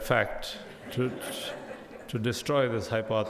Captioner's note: audience laughs